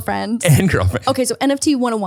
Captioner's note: laughs